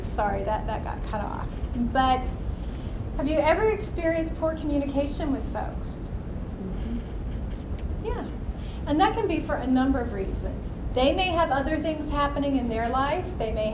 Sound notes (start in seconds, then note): 6.5 voiceover